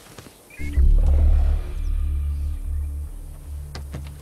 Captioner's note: Quiet Growl